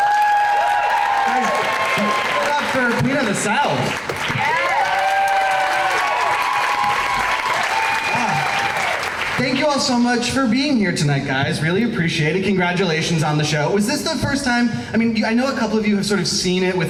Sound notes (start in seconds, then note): 0.3 crowd cheering; 4.7 crowd cheering